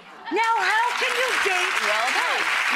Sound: applause

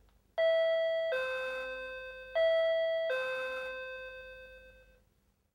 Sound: door-bell Rings

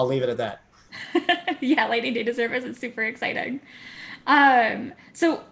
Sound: laugh

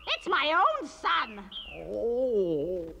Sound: groans

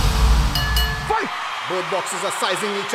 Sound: bell ringing

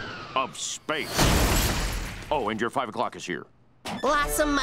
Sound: crash!

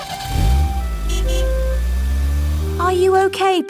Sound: horn honks

